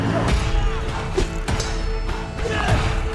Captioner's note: swords clanging; dramatic music